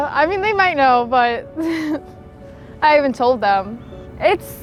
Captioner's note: laughs